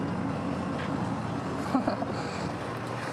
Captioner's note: chuckles